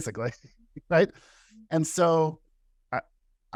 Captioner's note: laughter